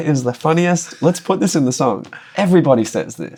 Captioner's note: laughter